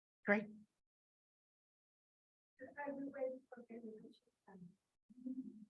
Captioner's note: chattering